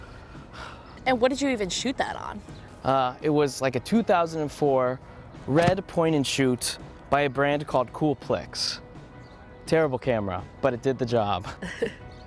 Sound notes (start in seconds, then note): 0.5 sighs; 11.5 laughs